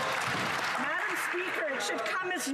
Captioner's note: some Applause